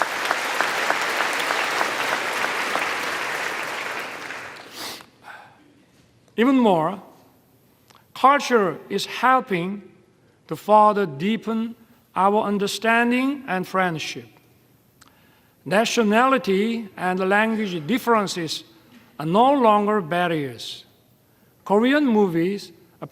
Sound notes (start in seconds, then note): 3.4 applause